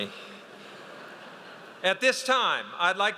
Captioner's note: audience laughs